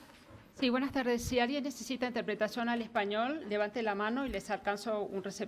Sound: speaking in a foreign language

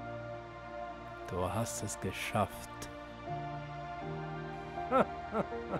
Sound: laugh

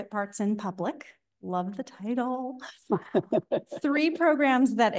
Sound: laughing

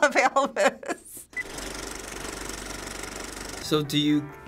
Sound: movie reel clicks

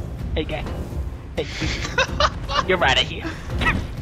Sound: other player laughing

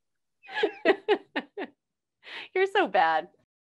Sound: laughing

